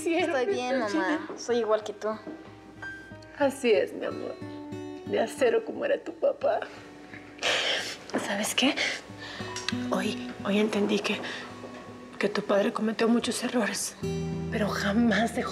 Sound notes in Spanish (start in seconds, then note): 10.3 sollozos